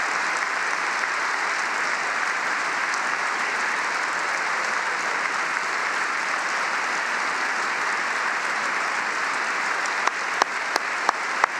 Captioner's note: applause